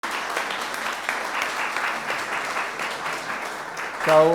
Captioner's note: audience applauds